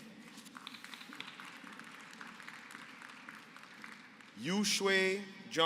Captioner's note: applause